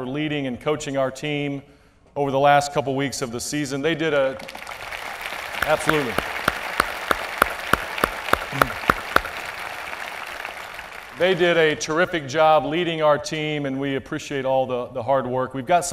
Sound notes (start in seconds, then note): 5.0 applause